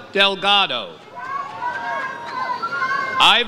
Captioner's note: audience cheers